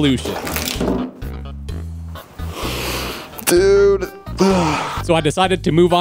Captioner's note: inhale